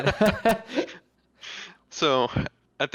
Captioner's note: chuckles